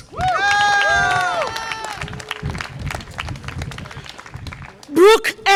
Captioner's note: audience applause and cheer